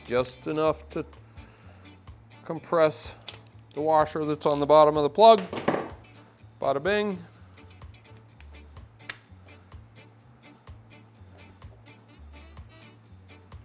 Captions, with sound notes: Just enough to compress the washer that's on the bottom of the plug. (tool hits table) Badda bing.